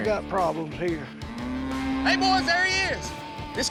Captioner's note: mooing